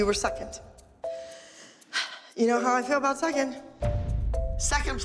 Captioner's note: sighs heavily